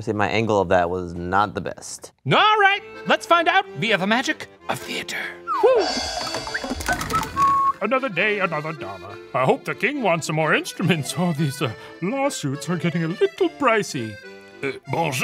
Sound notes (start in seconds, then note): 5.4 Adolphe whistles; 6.2 curtain rattles